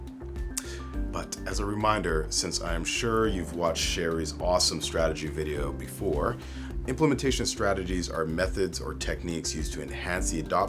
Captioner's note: tsk